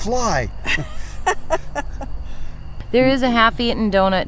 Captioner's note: laughing